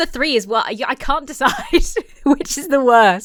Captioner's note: laughs